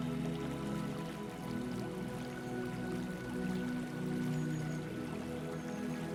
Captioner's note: water trickling